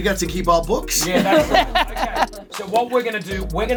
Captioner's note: laughs